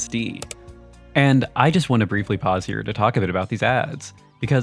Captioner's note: click Sound